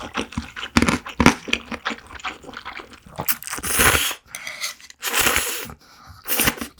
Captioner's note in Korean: 국물에 얼음 씹히는 소리임